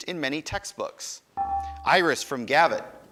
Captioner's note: buzzer dinging